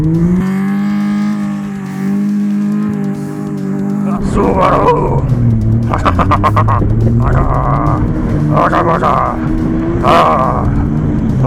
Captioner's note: speaking foreign language